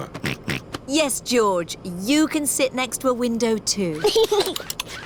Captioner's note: snorts; giggles